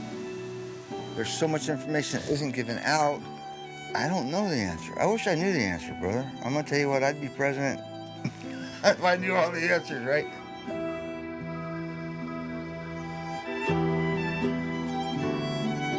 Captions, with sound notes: - There's so much information that isn't given out. I don't know the answer. I wish I knew the answer, brother. I'm gonna tell you what, I'd be president (laughs) if I knew all the answers, right? (gentle music)